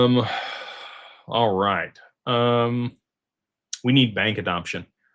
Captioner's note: sighs